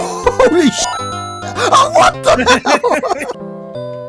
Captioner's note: chuckles